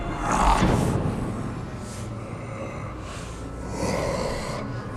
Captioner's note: eerie music; Faraday snarls; The Patriarch snarls; eerie music